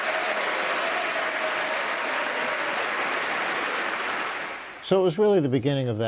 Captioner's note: cheers and applause